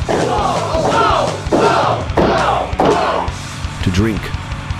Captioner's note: audience cheering